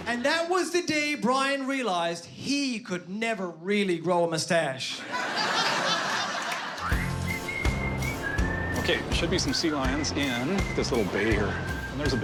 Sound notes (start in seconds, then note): 4.9 laughter